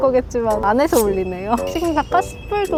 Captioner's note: the ringtone’s ringing loud with no mercy